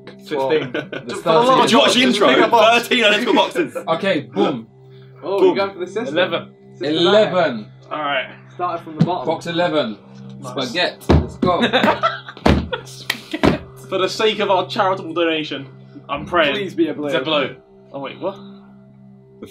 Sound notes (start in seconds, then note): 11.5 laughing; 18.8 tense music